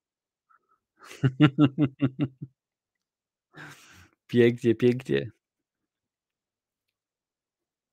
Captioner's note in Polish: śmiech